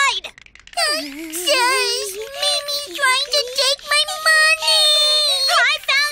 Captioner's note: Crying